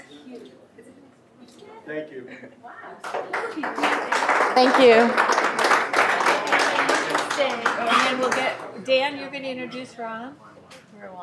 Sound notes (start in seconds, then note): 3.0 applause